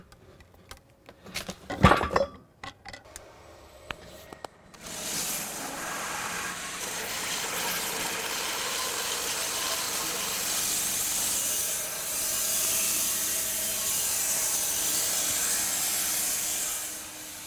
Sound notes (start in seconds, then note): 1.3 wood clunking; 7.0 saw whizzing